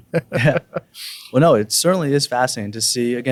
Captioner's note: laughing